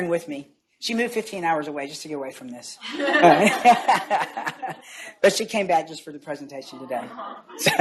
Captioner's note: laughs